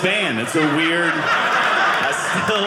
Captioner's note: audience laughing